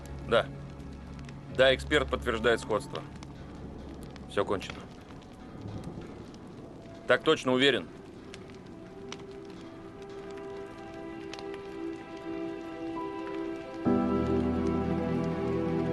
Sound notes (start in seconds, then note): 8.3 fire crackling